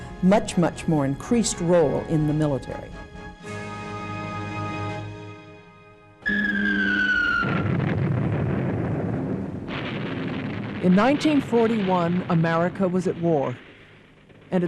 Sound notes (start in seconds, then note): 6.2 bomb whistling; 6.7 explosions booming